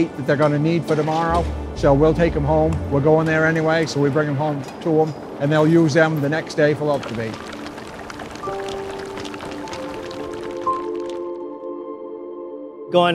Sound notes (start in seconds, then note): 6.8 fish clacking; 9.8 gentle music